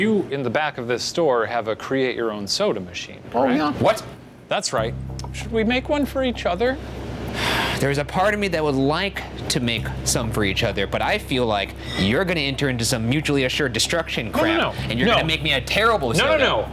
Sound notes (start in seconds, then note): 7.3 sighs; 16.5 laughs